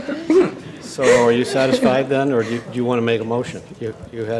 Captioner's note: laughter